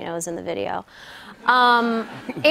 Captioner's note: laughter